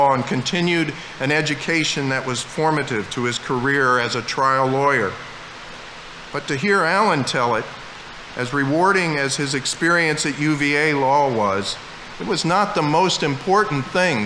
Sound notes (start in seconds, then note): none